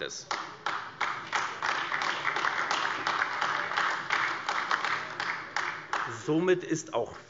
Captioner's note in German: Beifall AfD